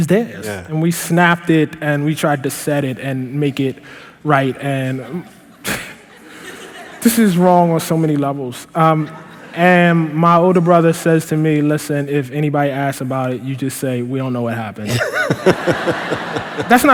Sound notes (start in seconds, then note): 6.0 laughter; 14.8 laughter